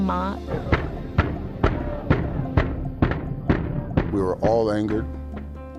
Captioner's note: pounding on window